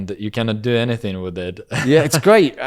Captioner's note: laughs